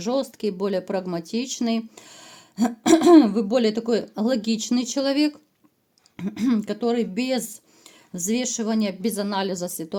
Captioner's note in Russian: откашливается